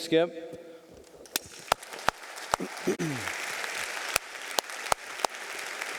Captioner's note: audience applauding